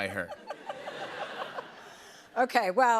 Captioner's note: laughter